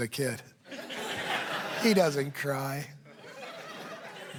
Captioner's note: laughter